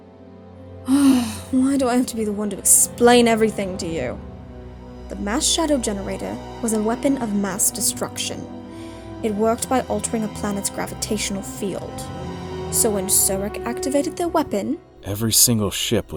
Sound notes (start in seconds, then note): 0.8 sighs